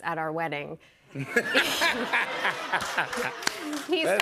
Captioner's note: laughter